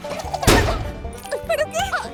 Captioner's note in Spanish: ¡clang!